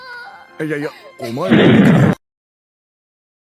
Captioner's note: boom